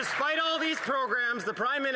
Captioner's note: some Applause